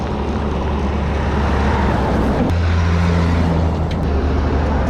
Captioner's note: trucks passing